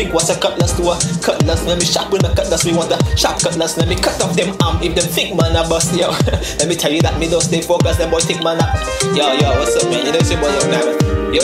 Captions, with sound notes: What's a cutlass To a cutlass Let me sharpen a cutlass Me want a sharp cutlass Let me cut off them arm If them think man a bus Yo (chuckle) Let me tell you that Me don't stay focus Them boy think man are Yo yo